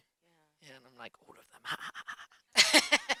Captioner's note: laughs